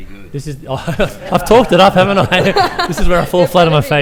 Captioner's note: laughter